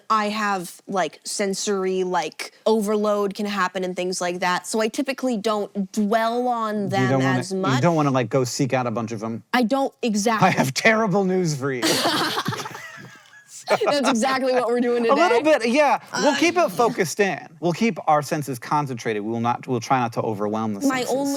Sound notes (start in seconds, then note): 11.8 BOTH laugh